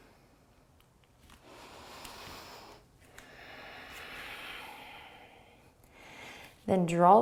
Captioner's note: deep breathing